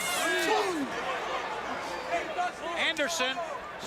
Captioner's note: crowd chatter